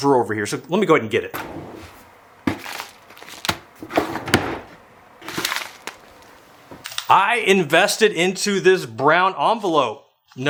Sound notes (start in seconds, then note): 1.3 drawer opening; 1.8 envelope crinkling